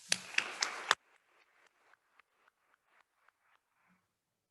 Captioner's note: attendees applauding